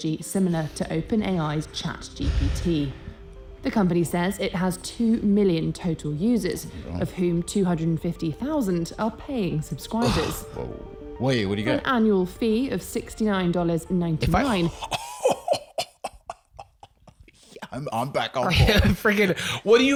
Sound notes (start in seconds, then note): 14.6 shocked laughter